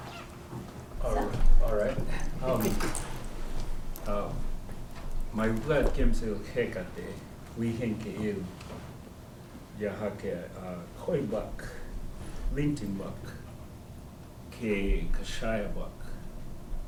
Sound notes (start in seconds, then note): 5.0 speaking koi